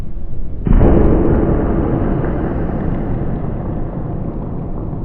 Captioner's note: baseball exploding